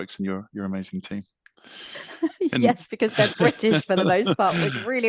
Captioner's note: laughs